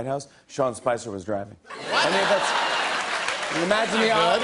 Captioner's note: laughter